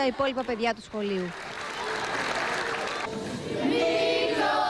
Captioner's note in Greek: χειροκρότημα